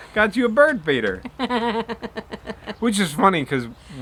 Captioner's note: laughs